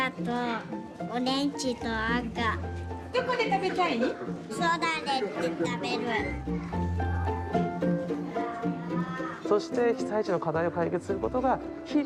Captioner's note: footsteps